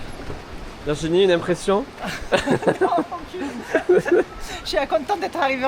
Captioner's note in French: rires